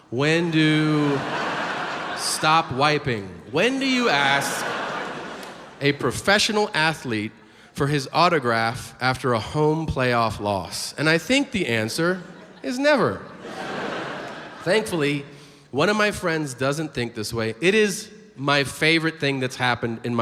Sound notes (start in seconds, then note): 0.7 audience laughs; 13.7 audience laughs